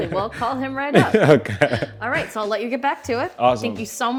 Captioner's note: laughing